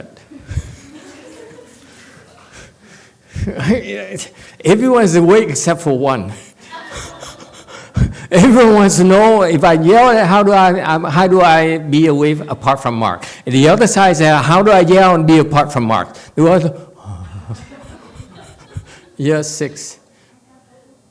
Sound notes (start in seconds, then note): 0.2 laughs; 6.6 laughs, audience laughs